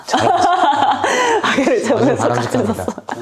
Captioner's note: laughter, laughter, laughter